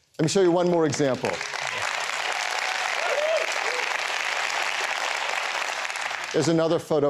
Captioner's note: applause